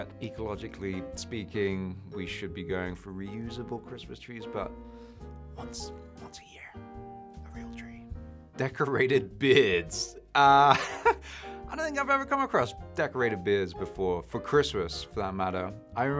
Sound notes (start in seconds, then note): 10.6 chuckles